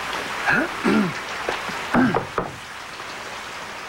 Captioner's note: clearing of throat